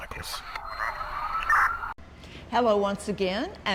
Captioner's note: sirens wailing